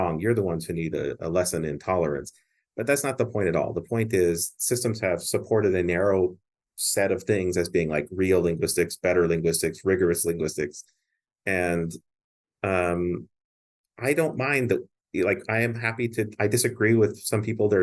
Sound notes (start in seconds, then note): none